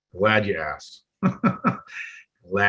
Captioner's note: coughs